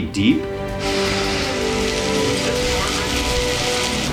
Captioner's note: soil rumbling